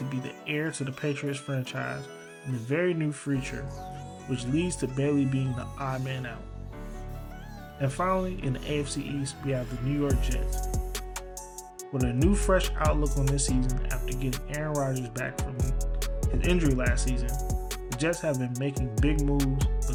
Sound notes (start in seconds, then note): 8.1 voiceover